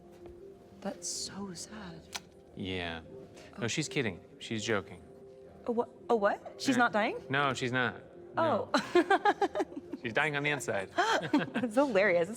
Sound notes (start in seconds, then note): 8.8 laughs; 8.8 chuckles